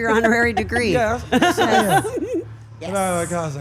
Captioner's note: laugh